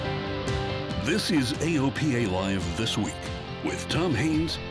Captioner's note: voiceover